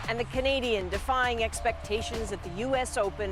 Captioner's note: cheers and applause